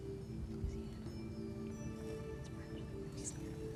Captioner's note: whispering